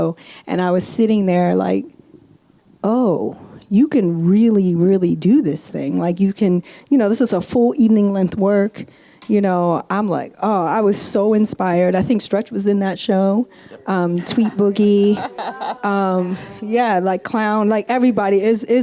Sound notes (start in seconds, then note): 14.1 laughs